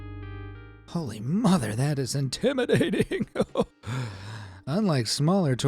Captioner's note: gasping